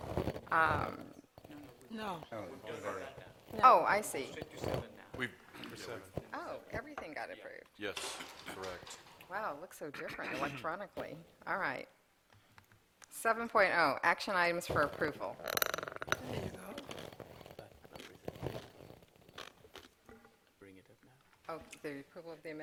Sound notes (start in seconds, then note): 6.3 laughter